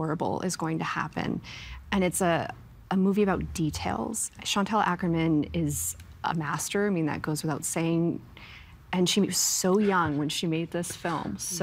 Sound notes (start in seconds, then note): none